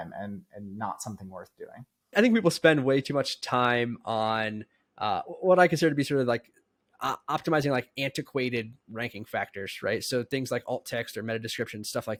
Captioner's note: speaking